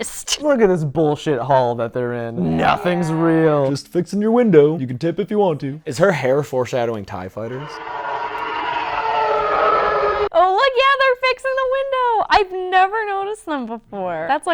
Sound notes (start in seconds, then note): 7.1 TIE fighter sound effects